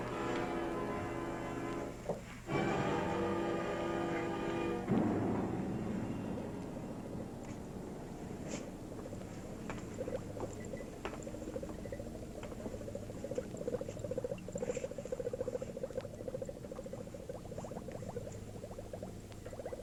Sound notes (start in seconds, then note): 1.9 dramatic music; 11.9 liquid bubbling